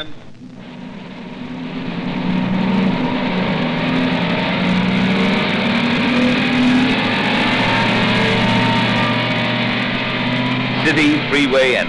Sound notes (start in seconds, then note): 0.0 engine accelerates